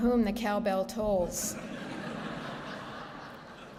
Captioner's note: laughter